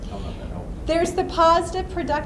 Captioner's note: voiceover